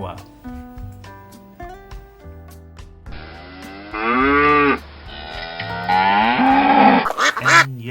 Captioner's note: cow sound effect